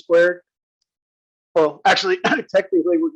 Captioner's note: cough